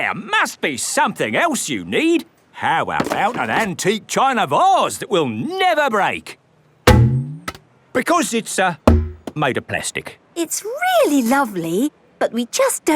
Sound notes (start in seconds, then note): 7.1 thunks